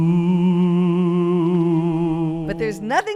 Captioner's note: eerie sound